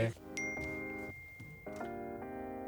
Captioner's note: phone pings